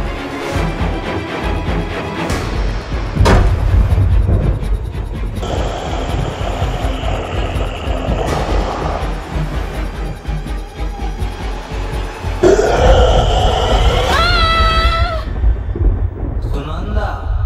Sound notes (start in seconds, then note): 3.2 hits floor; 14.0 screams